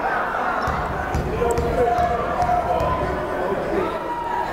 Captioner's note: chattering